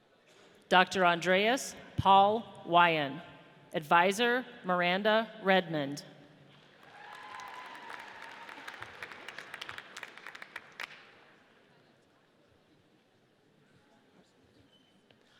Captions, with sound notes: Dr. Andreas Paul Wion. Advisor, Miranda Redmond. (audience cheers)